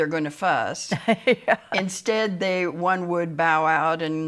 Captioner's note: laughs